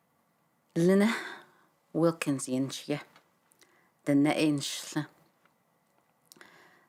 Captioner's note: speaks in another language